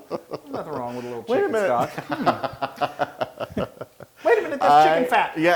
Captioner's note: laugh